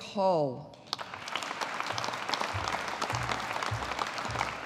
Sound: audience applauding

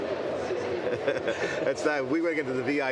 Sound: laughs

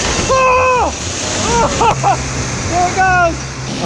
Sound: screams

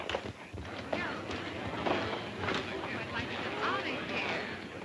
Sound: patrons chatting

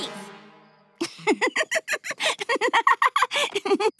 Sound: laughing

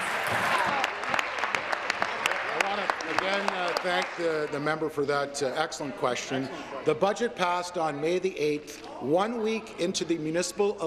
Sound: applause

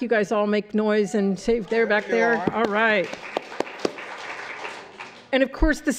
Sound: applause

